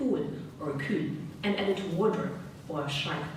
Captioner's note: speaking German